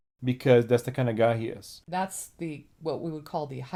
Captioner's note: none